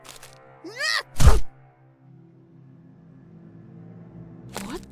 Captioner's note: Delphur falling noises